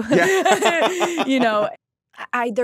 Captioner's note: both laughing